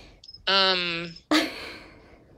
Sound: laughter

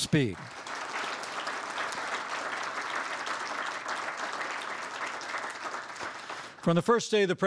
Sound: applause

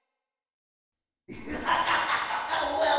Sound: laugh

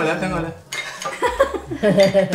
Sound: laughs

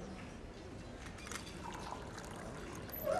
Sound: people murmuring; liquid pouring; hinge squeaking

